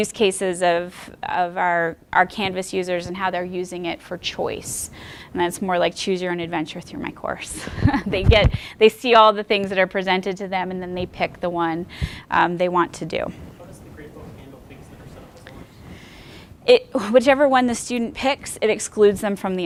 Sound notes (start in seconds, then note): 7.6 laughing